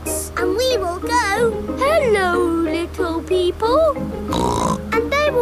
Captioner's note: snorts